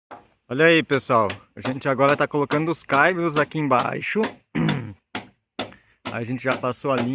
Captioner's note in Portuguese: limpando a garganta